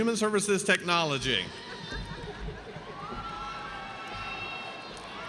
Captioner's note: audience cheers